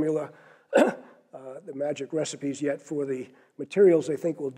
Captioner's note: cough